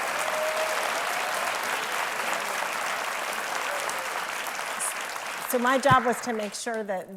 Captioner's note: applause